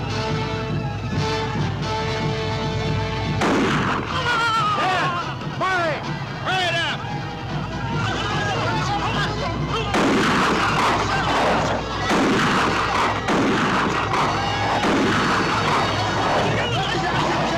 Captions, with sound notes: (tense orchestral music) (gunshot cracking) Dan, Mahri, hurry it up! (group shouting) (gunshot cracking)